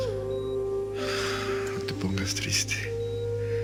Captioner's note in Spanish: Suspiros